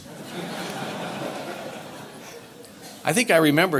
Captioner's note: audience laughter